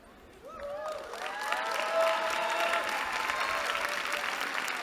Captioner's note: cheering